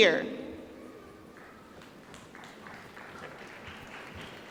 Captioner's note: applause